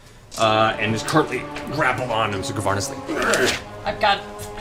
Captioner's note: grunts